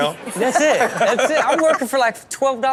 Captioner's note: hosts laughing